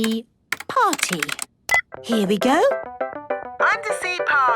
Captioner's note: beep